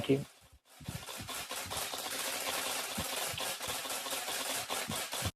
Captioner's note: camera shutters